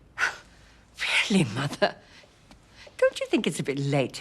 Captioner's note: scoffs